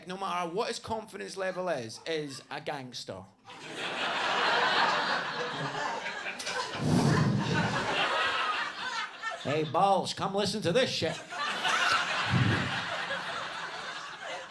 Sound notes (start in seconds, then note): 3.5 audience laughs; 6.5 exhaling; 11.0 audience laughing